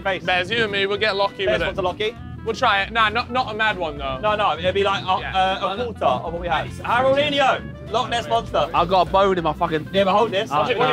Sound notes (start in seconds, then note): none